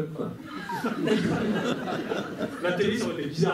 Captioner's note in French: rires